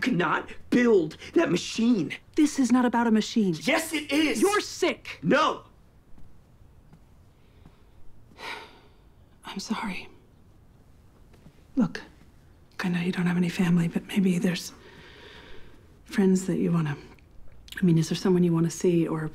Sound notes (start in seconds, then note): 8.3 sighs